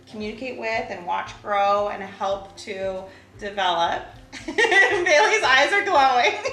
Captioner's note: laughs